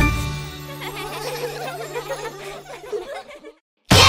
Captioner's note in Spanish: Risas